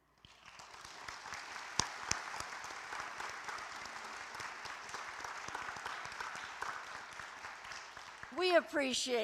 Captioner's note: applause